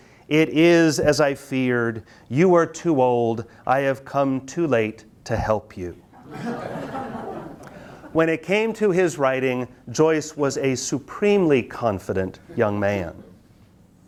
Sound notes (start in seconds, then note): 6.2 students laugh